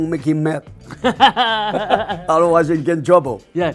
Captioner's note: laughing